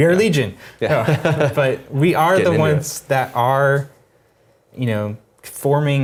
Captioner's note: laugh